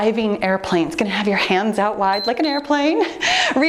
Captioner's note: timer beeps